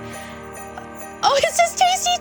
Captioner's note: bells jingling